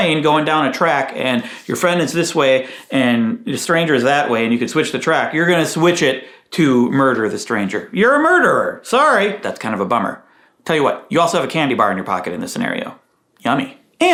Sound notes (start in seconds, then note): none